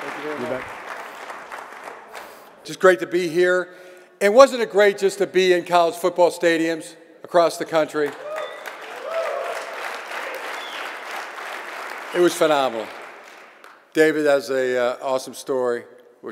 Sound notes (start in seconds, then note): 8.0 audience clapping and cheering